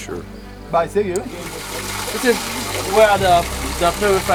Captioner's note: voiceover